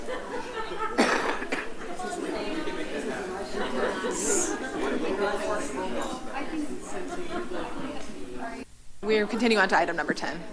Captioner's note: background chatter